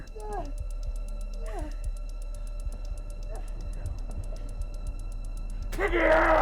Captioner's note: muffled groaning